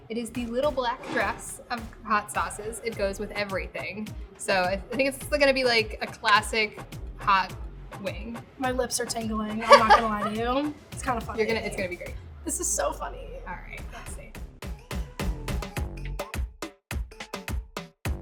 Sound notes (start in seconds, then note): 9.6 laughing; 15.4 soft music